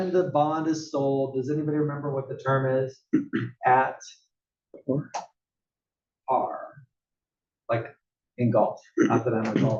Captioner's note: cough